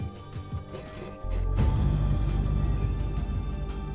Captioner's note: box scrapping